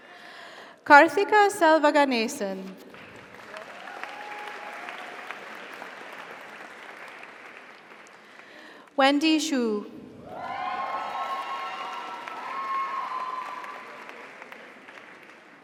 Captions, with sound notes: Kartiga Selvaganesan. (audience applauds) (audience cheers) Wendy Sheu. (audience applauds) (audience cheers)